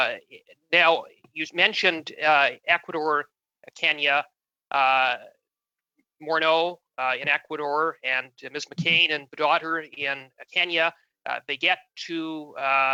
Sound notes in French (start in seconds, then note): 0.9 voix de l'interprète